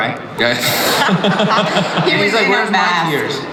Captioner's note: audience laughs